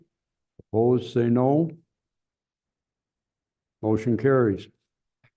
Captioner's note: silence